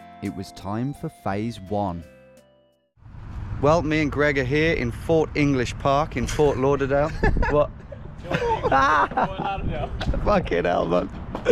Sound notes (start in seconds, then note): 9.3 laugh